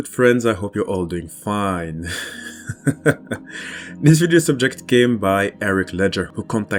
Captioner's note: laughs